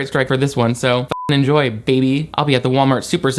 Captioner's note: beep